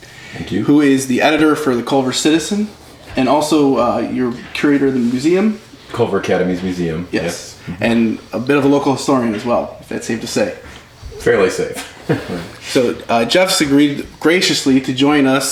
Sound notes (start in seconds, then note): 11.7 laughs